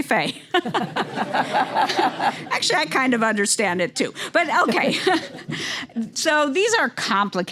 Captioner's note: laugh